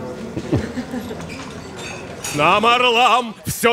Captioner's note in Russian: смешки